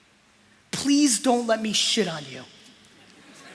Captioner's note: laughter